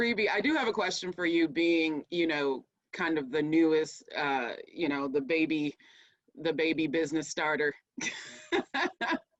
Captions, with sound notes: Rebe, I do have a question for you being, kind of the newest, the baby business starter, (laughs)